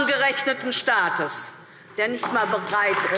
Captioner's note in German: Beifall DIE LINKE